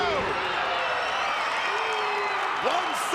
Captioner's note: crowd cheering